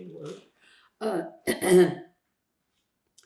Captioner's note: clears throat